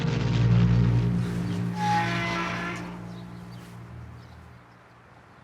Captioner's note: gate squeaks